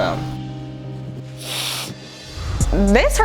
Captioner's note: sniffling